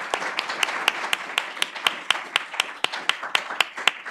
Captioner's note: applause